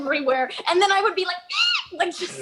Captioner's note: screeches